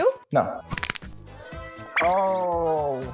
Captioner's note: chin cracks